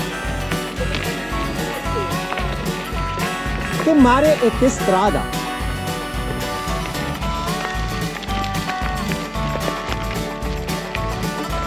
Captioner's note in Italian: Applauso